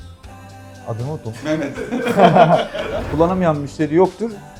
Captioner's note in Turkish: kahkaha